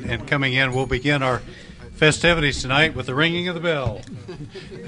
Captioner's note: bell ring; laughter